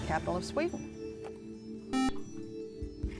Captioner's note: beep